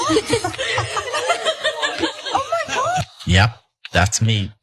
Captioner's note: laugh